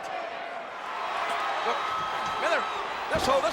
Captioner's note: audience cheers